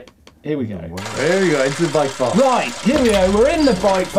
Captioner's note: chains whirring